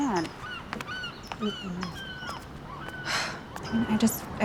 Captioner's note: birds calling